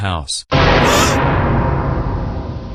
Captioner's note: gasps